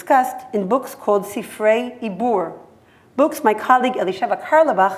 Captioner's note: hebrew